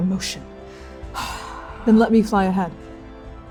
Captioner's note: troubled exhaling